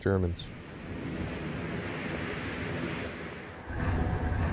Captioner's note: wind howling